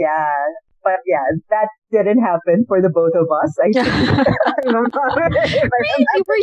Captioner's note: laughter